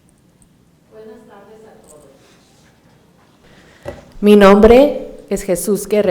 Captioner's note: speaking in foreign language